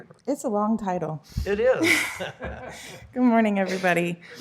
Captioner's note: laughter